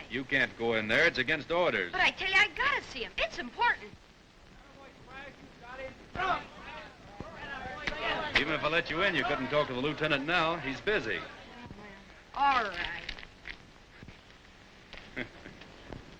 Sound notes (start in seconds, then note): 4.6 crowd chattering; 15.0 guard chuckling